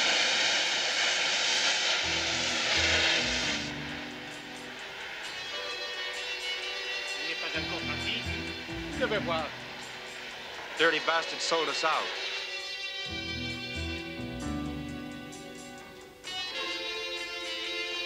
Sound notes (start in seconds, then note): 9.3 speaking foreign language